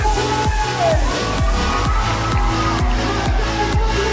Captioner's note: audience cheering